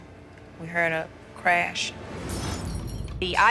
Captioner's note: glass breaking